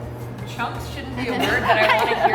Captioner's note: everyone laughing